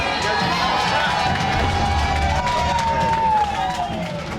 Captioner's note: applause